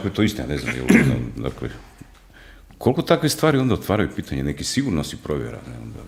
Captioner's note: coughs